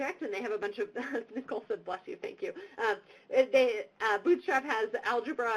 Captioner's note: laughs